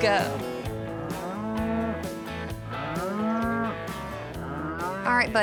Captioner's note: cows moo